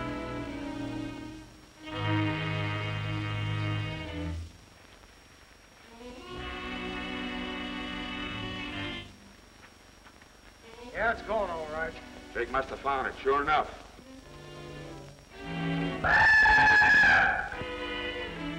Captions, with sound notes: It's gone all right. Jake must have found it, sure enough. [whistling]